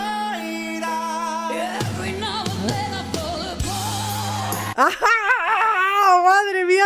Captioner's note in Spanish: risas